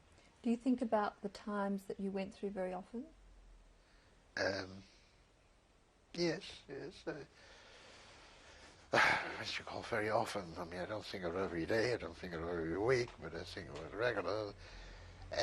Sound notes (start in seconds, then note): 8.9 sighs